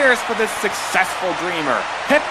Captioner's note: crowd